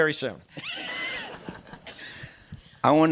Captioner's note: laughter